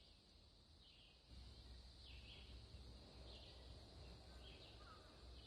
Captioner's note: birds chirping